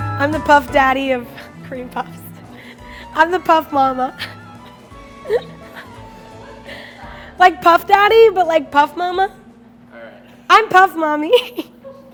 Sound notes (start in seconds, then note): 5.1 laughing